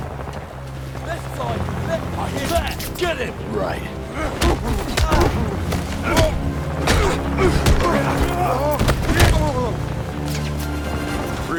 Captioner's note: groaning